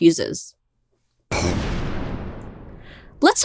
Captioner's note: explosion sound